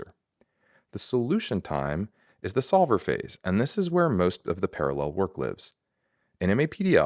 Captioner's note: breath